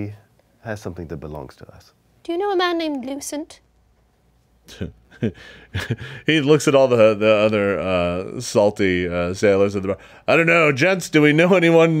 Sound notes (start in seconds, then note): 4.7 laughs